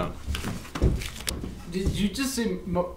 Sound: footsteps running

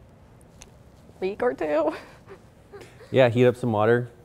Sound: chuckles

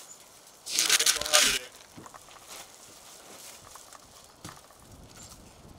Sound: plastic hissing drowns out

